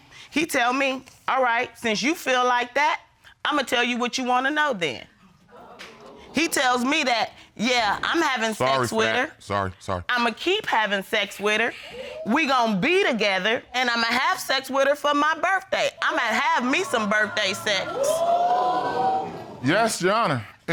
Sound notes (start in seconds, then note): 18.1 audience exclaims